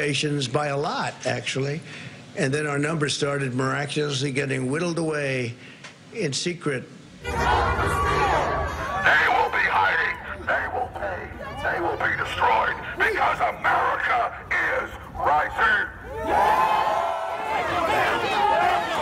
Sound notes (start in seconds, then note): 4.0 chanting